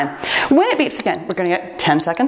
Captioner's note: timer beeps